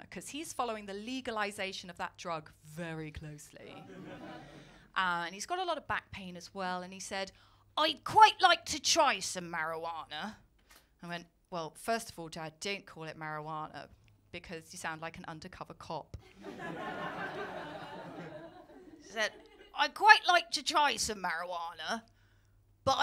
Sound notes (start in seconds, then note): 16.2 laughter